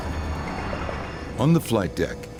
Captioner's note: airplane engine roaring